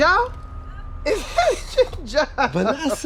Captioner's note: laughing